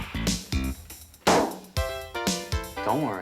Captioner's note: blowing; burst